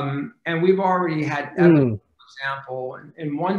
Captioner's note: faintly speaking